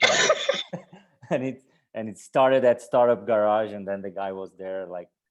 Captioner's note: laugh